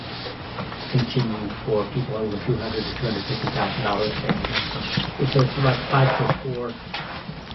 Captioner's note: reporter talking